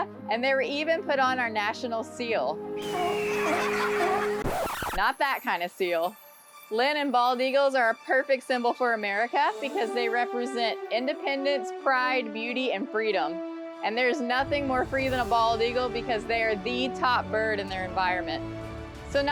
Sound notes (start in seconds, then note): 2.8 seal barks